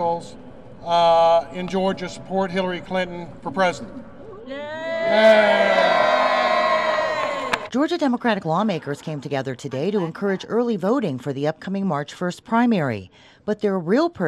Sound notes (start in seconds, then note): 2.9 cheering